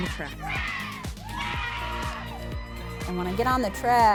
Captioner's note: group cheering